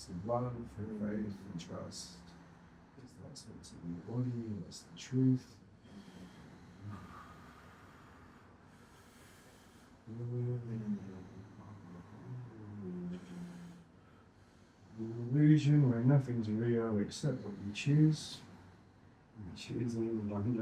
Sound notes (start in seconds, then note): 10.0 hums